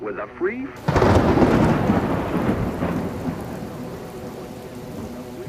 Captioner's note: thunder crashing